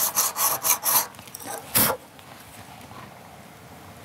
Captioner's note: he blows